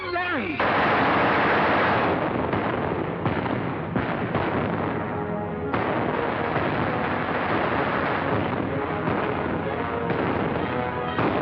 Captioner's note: gunshots